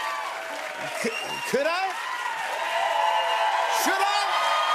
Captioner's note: cheers and applause